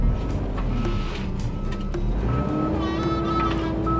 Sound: loader beeping

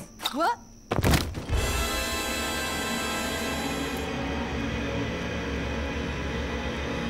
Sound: body thuds; sinister music

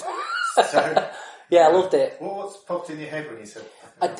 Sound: laughs

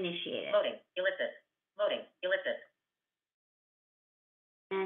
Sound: VoiceOver voice

